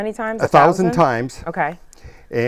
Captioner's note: laughing